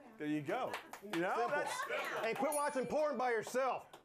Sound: applause

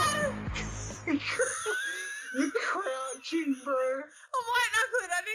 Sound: laughter

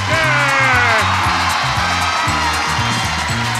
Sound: audience cheers

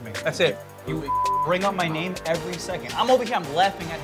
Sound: beep

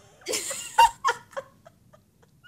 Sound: laughs

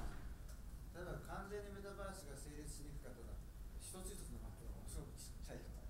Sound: speaking in foreign language

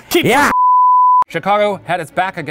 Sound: beeping

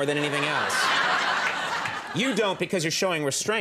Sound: audience laughing

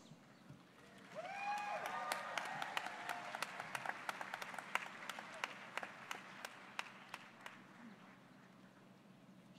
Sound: applause

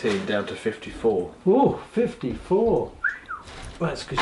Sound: whistles

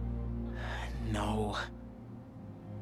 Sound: sigh

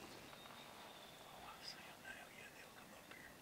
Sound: whispers

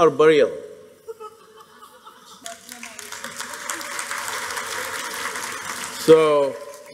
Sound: laughter/Applause

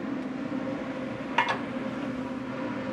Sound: bowl clatters

